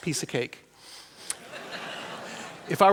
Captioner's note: laughter